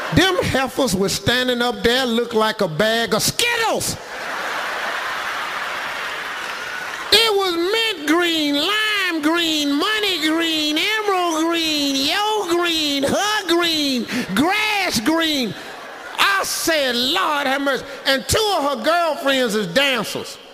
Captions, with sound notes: Them heifers were standin' up there look like a bag of Skittles. (audience laughs) (audience applauding) It was mint green, lime green, money green, emerald green, yellow green, her green, grass green. I said, "Lord, have mercy!" And two of her girlfriends is dancers.